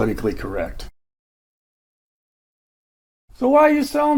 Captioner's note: silence